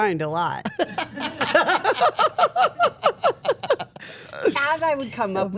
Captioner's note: everyone laughing